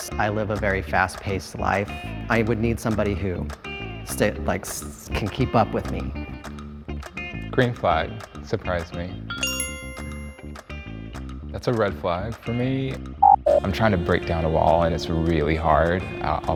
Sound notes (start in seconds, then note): 9.3 bell chimes; 13.2 sound effect blips